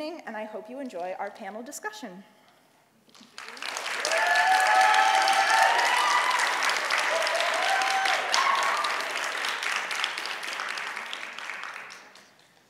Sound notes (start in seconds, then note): 3.2 audience applauds and cheers